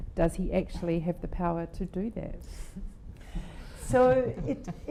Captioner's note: laughing